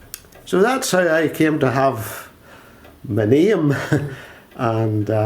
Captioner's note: laughs